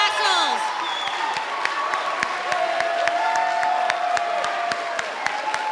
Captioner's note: audience applauding and cheering